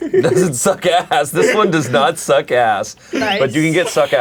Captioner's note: laughs